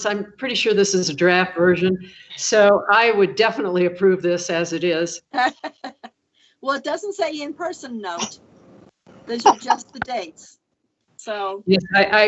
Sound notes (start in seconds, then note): 5.2 laughs